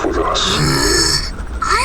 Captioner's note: Ash groans, annoyed